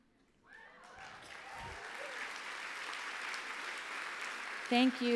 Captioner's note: applause